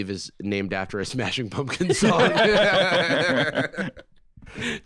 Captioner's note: both laughing